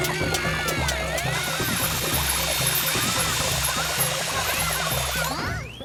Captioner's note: burrs landing; pair screaming; distant shouting; nun chucks whirring loudly